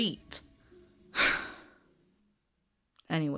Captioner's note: sighs